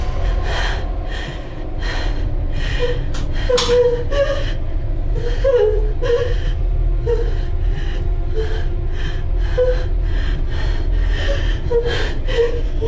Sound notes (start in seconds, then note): 3.8 door clicks